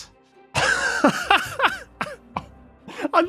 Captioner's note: laughs